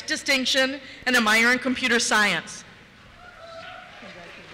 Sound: cheers

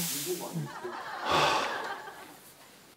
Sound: sighing

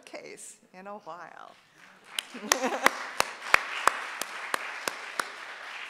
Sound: audience applauding

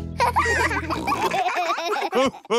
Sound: all laughing; chuckles; snorts

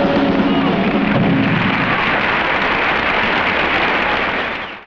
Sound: audience applauding

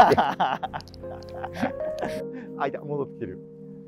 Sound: laughing

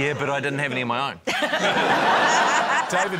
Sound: laughter

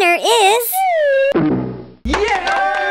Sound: bonk; cheers and clapping

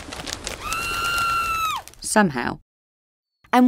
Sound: Ruth screaming

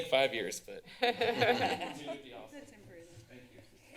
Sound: laughter

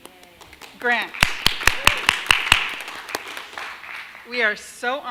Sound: audience applauding

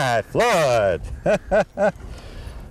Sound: laughter

